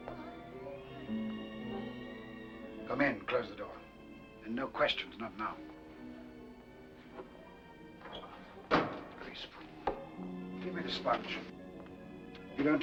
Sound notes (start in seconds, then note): 0.3 ominous music; 8.6 door closes